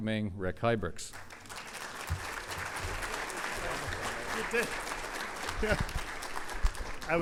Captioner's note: audience applause